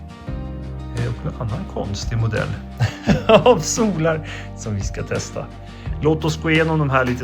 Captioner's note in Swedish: skratt